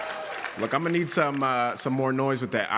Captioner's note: applause